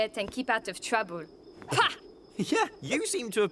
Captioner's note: scoffs